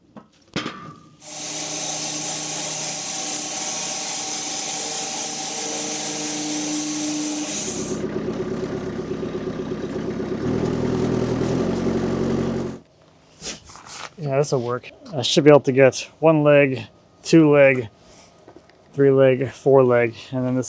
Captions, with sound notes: (woodcutting machine hissing) (tractor rumbling) (hand rustling) Yeah, this'll work. I should be able to get one leg, two leg, three leg, four leg.